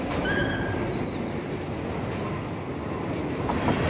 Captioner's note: dog yelping